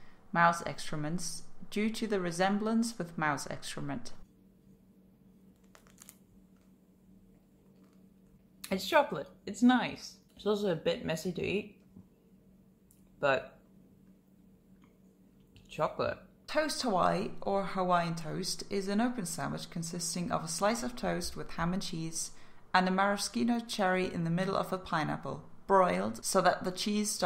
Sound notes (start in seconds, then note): 5.6 crunch